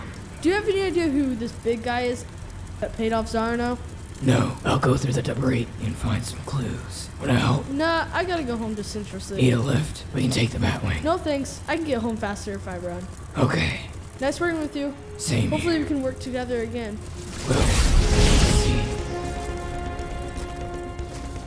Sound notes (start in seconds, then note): 17.5 flash electricity; 19.2 heroic music